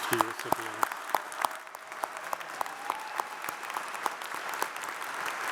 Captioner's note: audience cheers and applauds